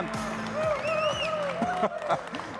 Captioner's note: audience cheers loudly; laughs